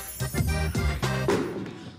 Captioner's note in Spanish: Estruendo